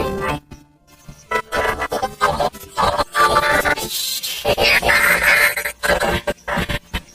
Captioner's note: voice glitching, stuttering continuously